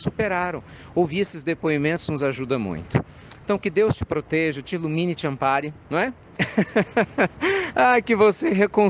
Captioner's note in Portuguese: risadas